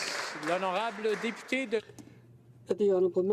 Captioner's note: applause